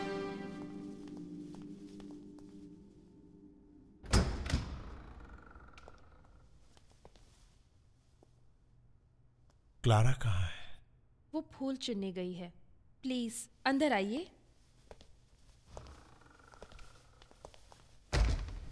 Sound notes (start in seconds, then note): 4.0 door Opens; 18.1 door creaks and shuts